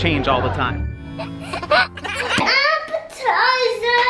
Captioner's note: baby laughs